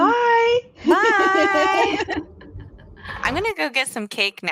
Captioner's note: laughing